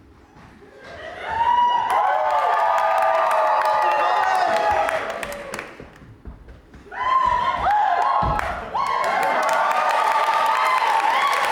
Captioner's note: audience cheers